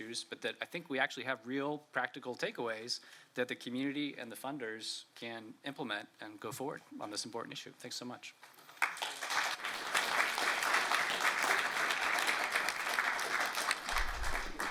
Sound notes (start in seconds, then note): 8.6 applause